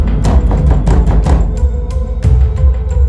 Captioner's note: banging the door